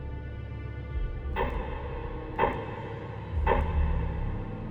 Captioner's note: dramatic ticking